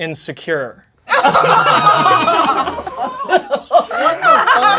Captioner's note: crowd laughing